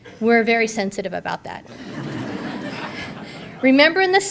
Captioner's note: audience laughter